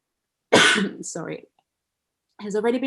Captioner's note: coughs